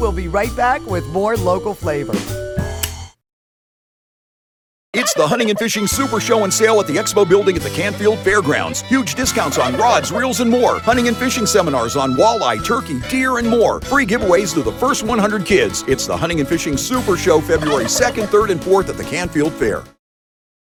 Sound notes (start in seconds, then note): 2.2 groovy music; 2.8 lighter clicking; 9.4 turkey clucking; 17.6 turkey clucking